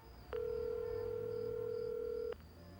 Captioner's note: line ringing